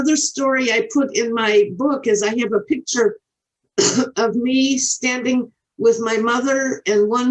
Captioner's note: coughs